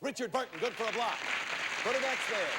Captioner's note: audience applauding